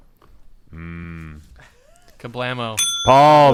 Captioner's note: bell dings